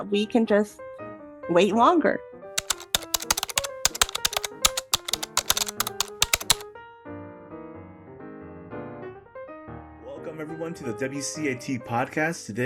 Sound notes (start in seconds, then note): 2.6 keyboard typing; 2.6 podcast theme music